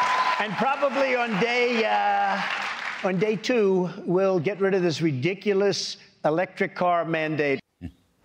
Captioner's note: cheers and applause